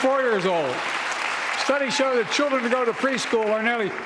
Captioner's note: applause